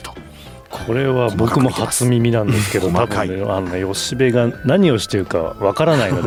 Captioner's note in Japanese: 咳払い